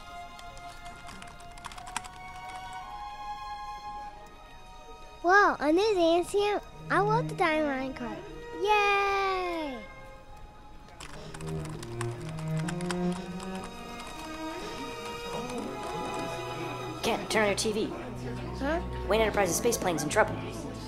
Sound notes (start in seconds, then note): 0.1 typing